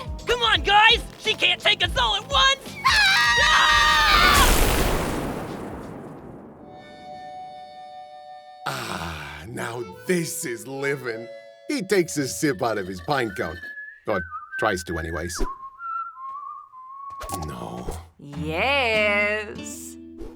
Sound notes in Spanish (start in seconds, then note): 15.4 Silbido imponente